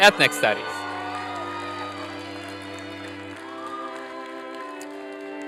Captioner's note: applause